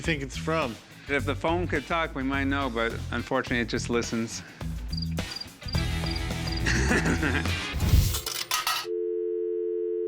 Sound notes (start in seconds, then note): 4.9 crickets; 6.4 laughs